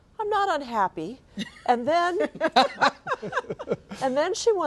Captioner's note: laughing